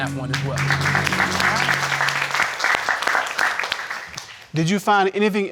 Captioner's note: applause